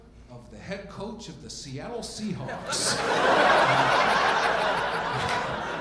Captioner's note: audience laughing